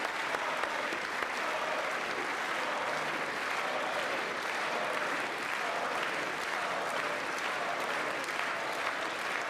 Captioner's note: applause